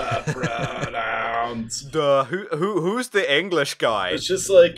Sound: stupid teen voice; stupid teen voice

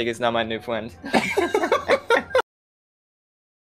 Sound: laughter

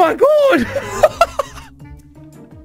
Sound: jacksepticeye laughs

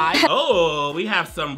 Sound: person laughs

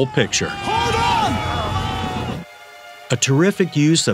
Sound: soldiers yelling

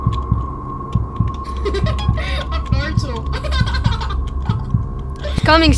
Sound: laughing; laughs

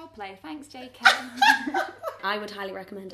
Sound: laughing

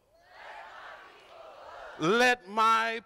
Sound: crowd

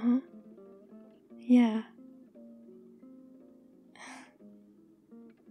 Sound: small laugh

